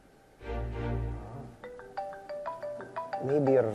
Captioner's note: cellphone continues ringing